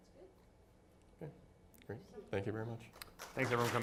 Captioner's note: clapping